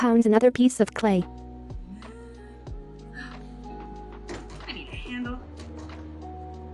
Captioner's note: gasps; mellow music